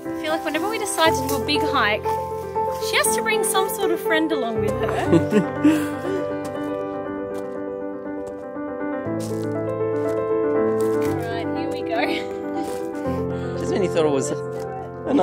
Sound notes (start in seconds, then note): 5.0 laughs; 6.3 piano music continues